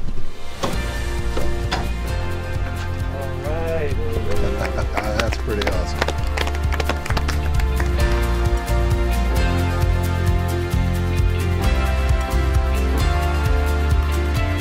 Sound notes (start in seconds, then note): 0.7 upbeat music; 4.0 laughing; 4.2 all applauding